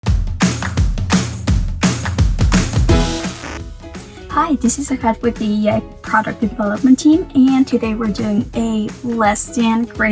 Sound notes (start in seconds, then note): 0.0 upbeat music; 3.0 static buzzing